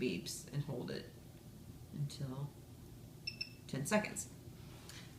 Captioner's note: device beeps